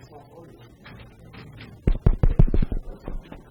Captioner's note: tapping on microphone